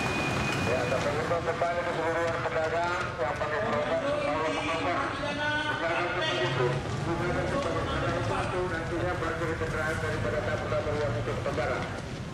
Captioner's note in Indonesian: ramai instruksi lewat pengeras suara